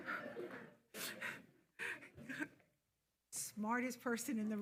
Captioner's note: attendees laughing